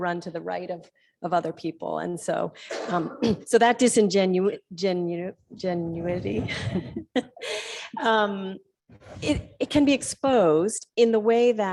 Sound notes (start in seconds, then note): 6.3 laugh